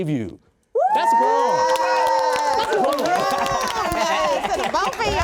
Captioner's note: applause